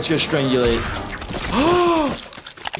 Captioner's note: gasps